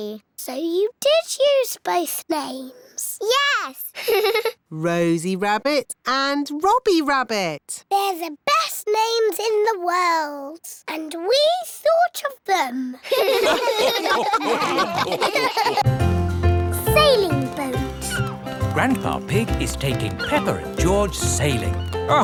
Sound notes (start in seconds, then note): 3.9 laughs; 13.0 all laugh